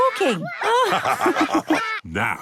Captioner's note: all laugh